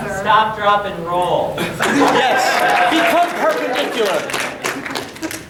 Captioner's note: audience clapping